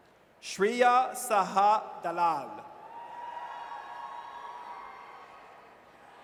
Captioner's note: audience cheers